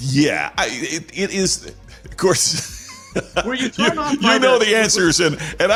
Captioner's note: laughter